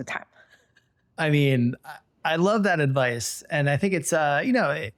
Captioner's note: laughs